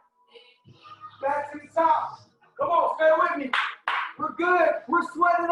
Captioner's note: clapping